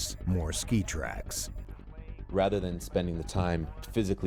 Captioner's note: voiceover